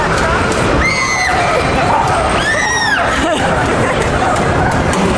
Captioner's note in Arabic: صرخات